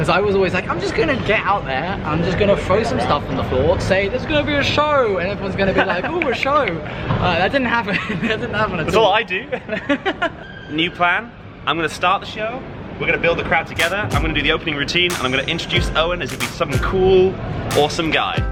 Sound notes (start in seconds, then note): 8.4 laughing